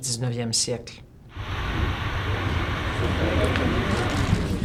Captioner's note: factory noise